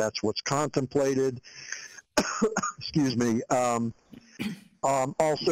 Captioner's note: coughs